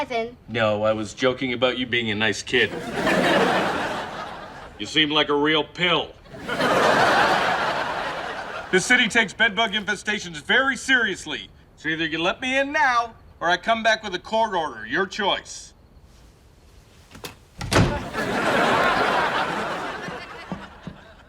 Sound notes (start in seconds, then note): 2.6 laughs; 6.2 laughs; 17.1 door slams; 17.8 laughs